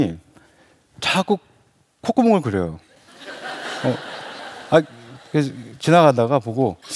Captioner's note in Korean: 웃음